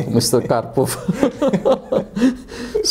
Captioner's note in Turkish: Karşılıklı kahkahalar